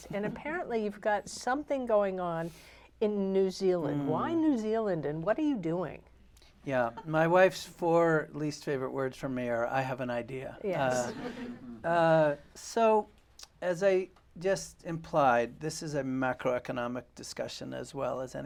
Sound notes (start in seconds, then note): 10.9 laughter